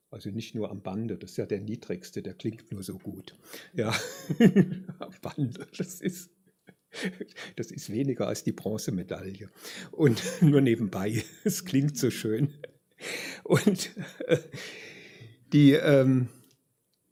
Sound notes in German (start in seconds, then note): 3.8 gelächter; 13.5 gelächter